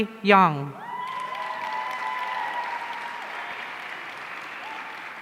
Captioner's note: audience cheering